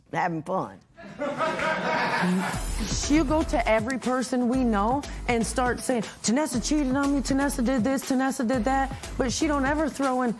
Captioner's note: laughter